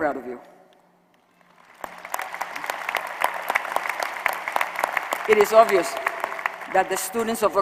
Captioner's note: applause